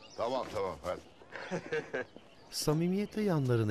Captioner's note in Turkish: Ömer gülme sesi